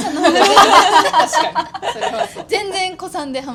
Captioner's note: laughs